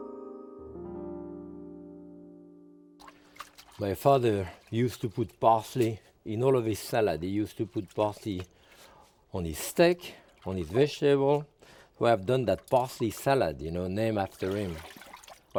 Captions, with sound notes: (water splashing) My father used to put parsley in all of his salad. He used to put parsley on his steak, on his vegetable. We have done that parsley salad named after him.